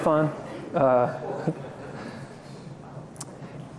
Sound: laughter

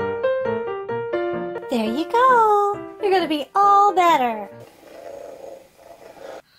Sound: cat purring

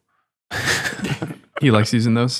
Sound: all chuckle

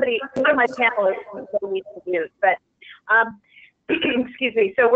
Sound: broken audio

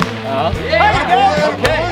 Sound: players cheer

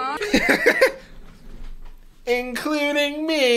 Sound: laughs

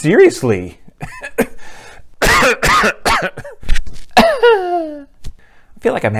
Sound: coughs

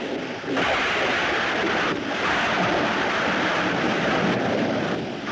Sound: thunder Rumbling

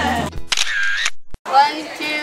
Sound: camera click

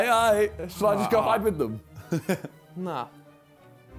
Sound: laughs

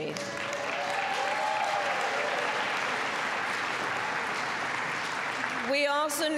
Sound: applause

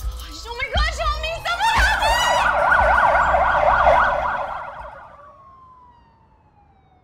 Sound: siren wailing

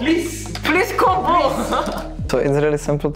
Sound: laughs

